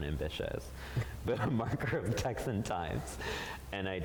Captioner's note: chuckles